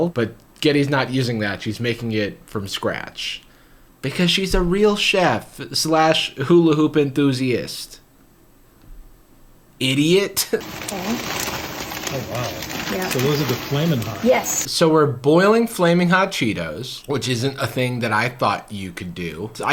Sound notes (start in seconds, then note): 10.6 chuckles; 10.6 bag crumples